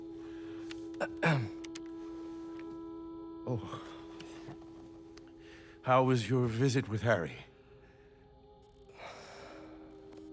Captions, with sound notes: (clears throat) Oh... ...how was your visit with Harry? (sigh)